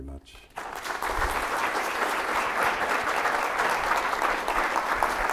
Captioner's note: audience applauding